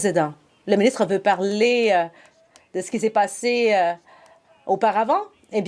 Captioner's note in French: voix de l'interprète